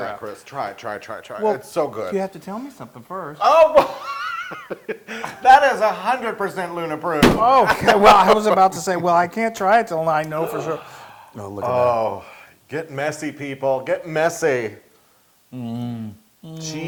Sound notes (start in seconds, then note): 4.1 laugh